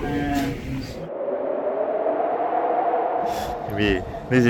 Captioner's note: wind howling